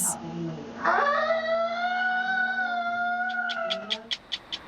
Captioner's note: screaming; tick tick tick